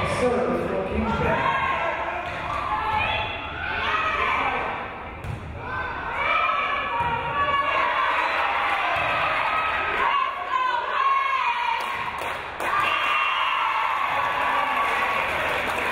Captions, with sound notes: Game is on serve for Kingsborough. - [Crowd] Let's go Wave!